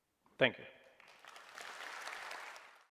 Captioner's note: applause